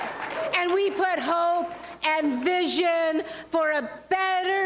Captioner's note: applause